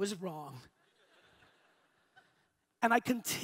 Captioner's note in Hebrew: הקהל צוחק